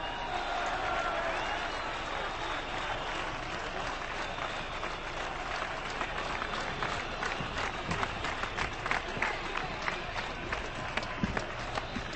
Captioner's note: applause, booing